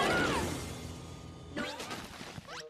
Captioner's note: screams